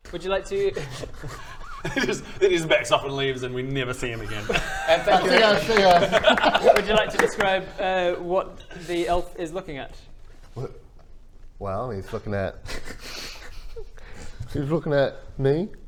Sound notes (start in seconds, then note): 5.0 applause; 12.5 giggles